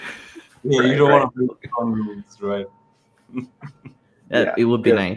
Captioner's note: speaks softy